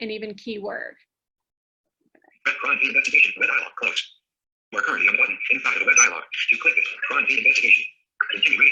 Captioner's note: synthesized speech